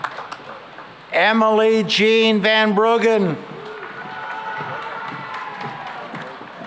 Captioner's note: cheering and applause